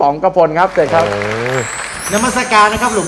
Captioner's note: applause